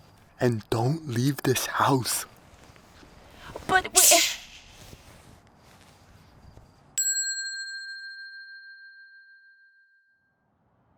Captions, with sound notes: - And don't leave this house. - But- - Shh! (bell dings)